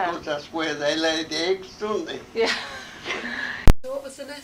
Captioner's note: interviewer laughs